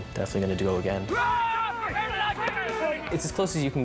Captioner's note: yelling